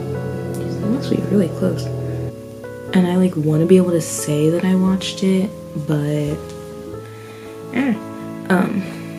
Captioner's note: airplane loudly flies